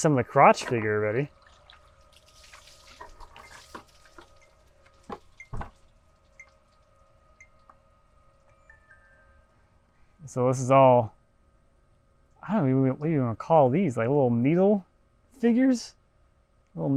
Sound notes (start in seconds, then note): 2.5 water sloshing; 5.3 phone beeping